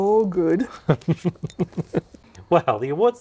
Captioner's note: chuckles